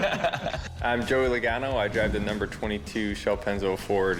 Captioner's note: all laugh